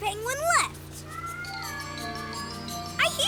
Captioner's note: squeaking